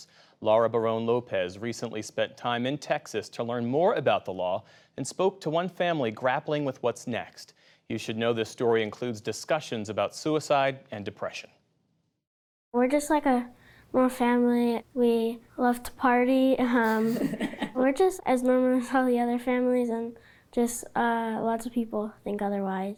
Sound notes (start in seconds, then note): 16.8 laughter